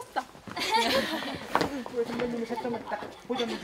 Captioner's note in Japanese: ヒヒ